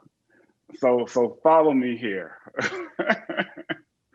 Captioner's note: laughs